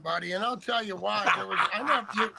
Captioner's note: laughter